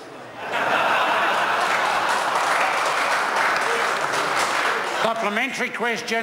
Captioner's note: members laugh and applaud